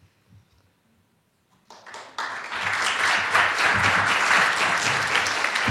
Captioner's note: applause